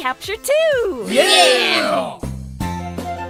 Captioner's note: Team8s cheer